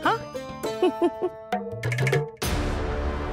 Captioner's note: laughs